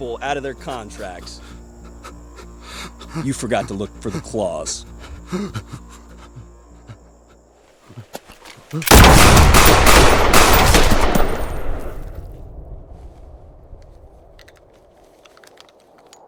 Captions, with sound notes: You forgot to look for the clause. (panting) (gunshots)